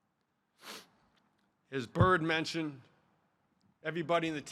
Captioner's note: sniffling